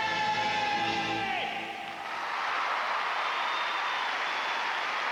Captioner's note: applause